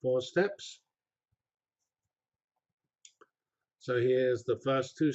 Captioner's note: pause